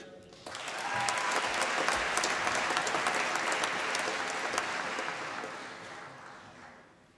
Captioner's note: applause